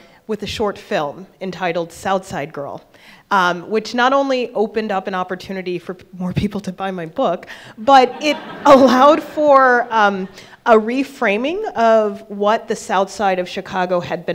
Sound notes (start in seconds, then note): 7.8 attendees laughing